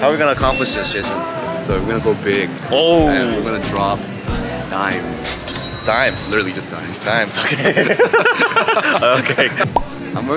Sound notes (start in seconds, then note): 6.1 cash register clinks; 7.4 both laugh